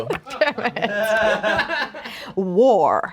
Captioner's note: everyone laughs